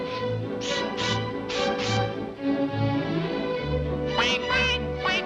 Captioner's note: Daffy blowing